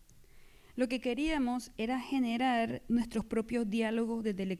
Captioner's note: speaking spanish